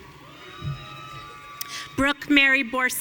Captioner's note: audience cheering